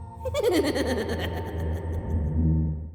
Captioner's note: creepy laughter